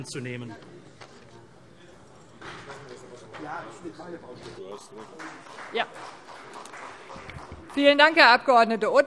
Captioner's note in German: Beifall CDU